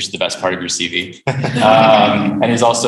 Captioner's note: laughter